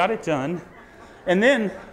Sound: audience laughs

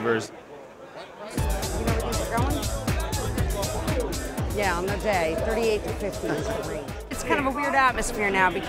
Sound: on phone

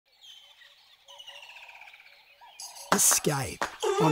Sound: birds chirping

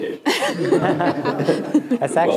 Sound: audience and panel laugh

